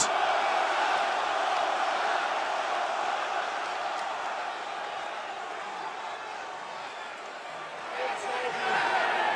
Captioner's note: crowd cheering